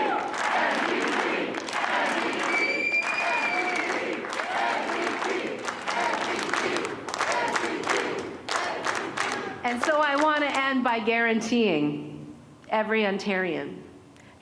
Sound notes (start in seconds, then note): 3.1 chanting